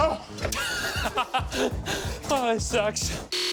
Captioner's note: laughs